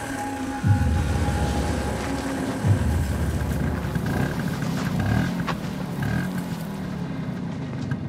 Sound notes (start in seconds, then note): 3.8 engine revving